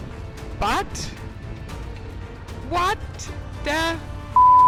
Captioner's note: beep